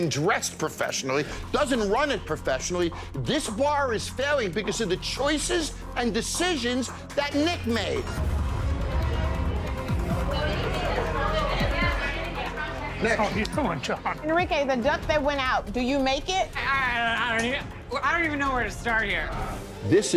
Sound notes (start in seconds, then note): 8.7 tense music; 8.9 patrons chattering